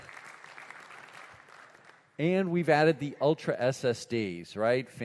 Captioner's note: applause